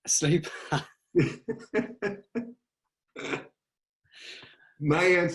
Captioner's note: laughing